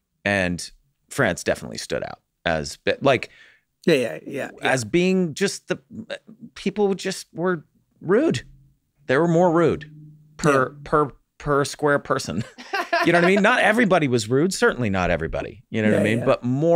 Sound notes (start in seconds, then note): 12.4 Megan laughs